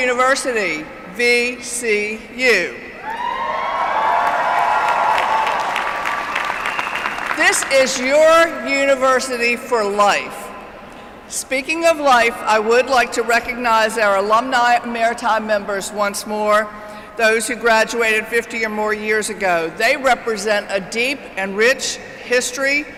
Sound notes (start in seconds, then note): 3.8 applause